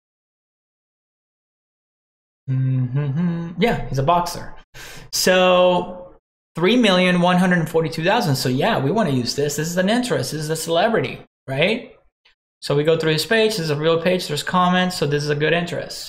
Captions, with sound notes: (hums) Yeah, he's a boxer. So 3,142,000 so yeah, we want to use this. This is an interest, this is a celebrity, right. So we go through his page, this is a real page, there's comments so this is a good interest.